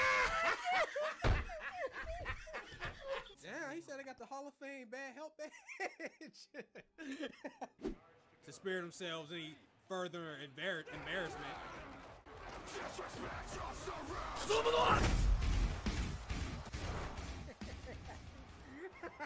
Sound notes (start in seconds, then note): 0.0 maniacal laughing; 5.3 laughing